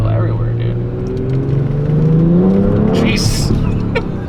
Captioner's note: engine revs; laughs